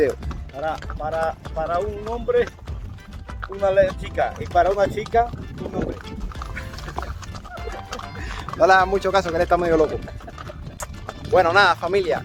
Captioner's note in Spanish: risas